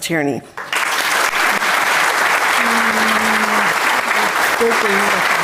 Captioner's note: audience applauding